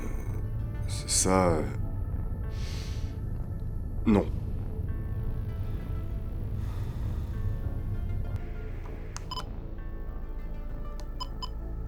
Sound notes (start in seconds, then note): 5.4 low music; 9.2 recorder beep; 11.1 recorder beep